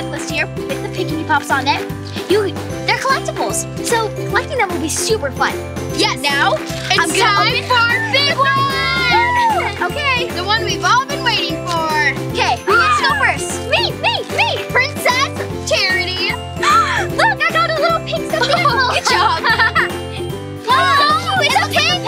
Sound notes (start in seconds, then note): 16.6 gasps; 18.2 laughing